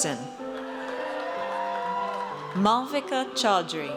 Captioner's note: audience cheers